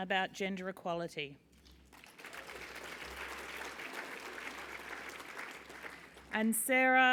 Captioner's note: applause